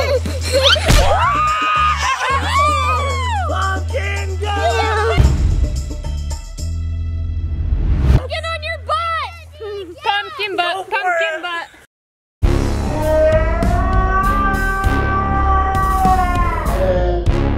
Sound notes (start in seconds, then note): 0.1 chuckling; 0.1 upbeat music; 0.9 thudding; 1.1 cheering; 5.7 upbeat music; 12.4 suspenseful music; 12.8 cartoon shrieking